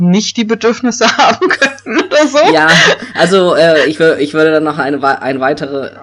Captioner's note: laughs